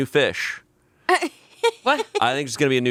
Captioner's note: laughing